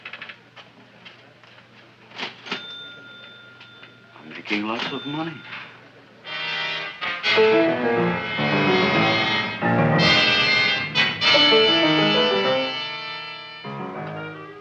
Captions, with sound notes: (cash register chiming) - I'm making lots of money. (anticipatory music)